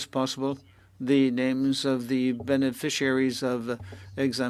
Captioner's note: speaking French